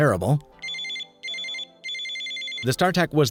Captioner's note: phone ringing